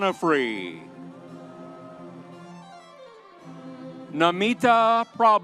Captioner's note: audience cheering